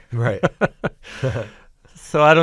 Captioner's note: chuckles